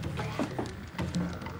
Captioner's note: whispers